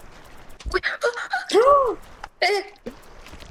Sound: a bunch of exclamations

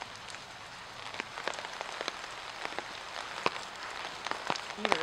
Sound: sad Cemetery Rain Patter

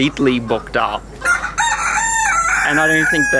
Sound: rooster crowing

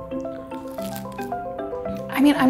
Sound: bread crunching

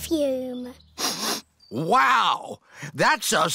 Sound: sniffs

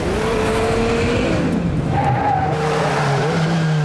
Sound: tires screeching

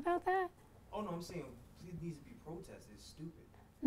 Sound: voiceover

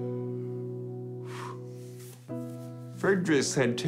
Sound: exhales sharply

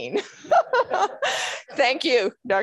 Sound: laughing

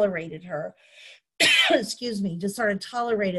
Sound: coughing

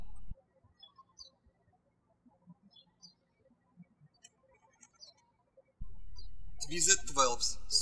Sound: birds chirping

